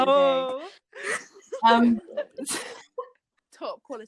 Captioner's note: laughter